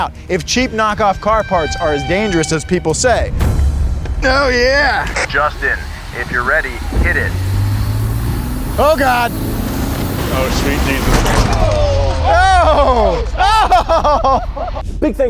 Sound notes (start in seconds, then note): 7.7 car revs